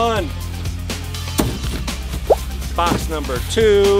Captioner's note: hollow thud; bubble pop